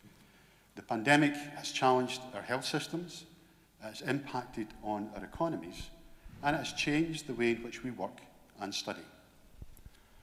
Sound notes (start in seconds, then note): none